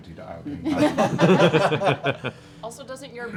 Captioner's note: laughter